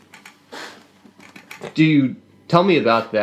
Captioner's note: clears nose